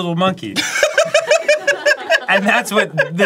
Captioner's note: cracking up